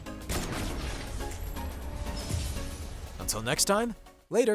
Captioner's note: explosion